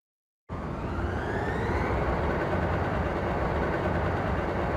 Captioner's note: mechanical whirring